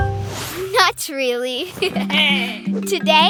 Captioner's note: chuckling